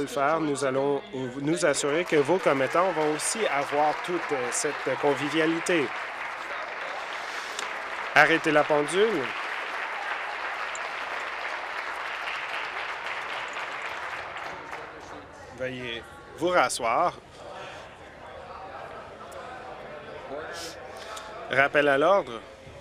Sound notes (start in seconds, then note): 8.2 applause